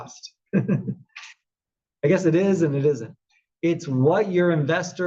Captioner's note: laugh